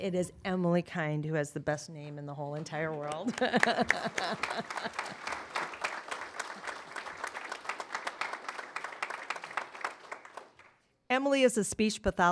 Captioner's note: applause